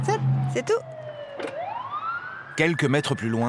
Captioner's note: siren blaring